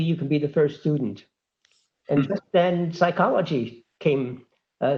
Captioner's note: laugh